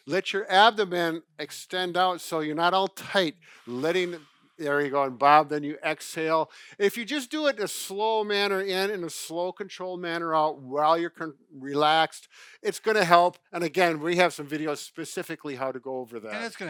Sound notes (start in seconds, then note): 3.3 breathes deeply